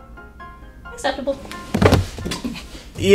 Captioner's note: thud